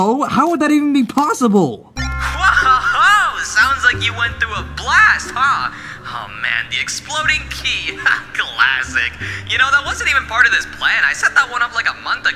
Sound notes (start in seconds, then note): 7.6 chuckles